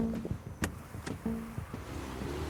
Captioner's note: shifting